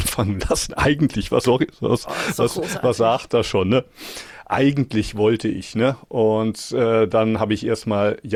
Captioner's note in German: gelächter